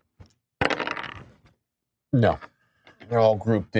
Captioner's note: dice rolling